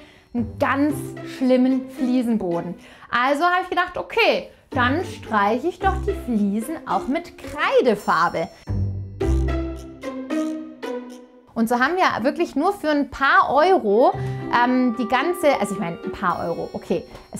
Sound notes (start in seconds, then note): 9.2 playful sounds